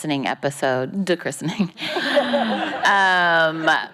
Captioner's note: laughing